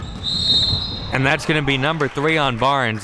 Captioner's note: whistle blowing